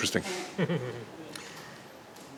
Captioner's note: laughter